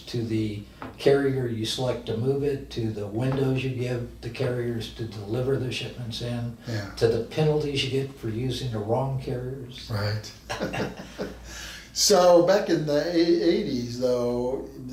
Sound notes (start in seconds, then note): 10.3 both men laugh